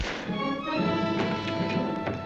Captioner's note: gun firing; dramatic music